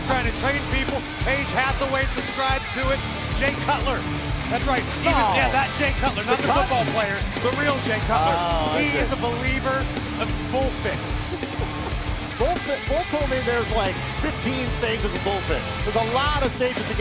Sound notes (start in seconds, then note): 11.2 laughter